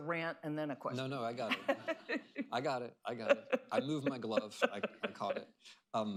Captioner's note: laughter